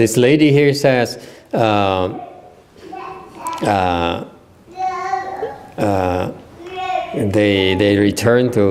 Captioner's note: the little one talking